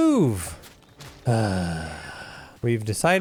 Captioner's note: sighs